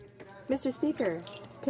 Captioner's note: speaking in French